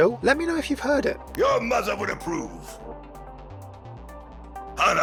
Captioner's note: voiceover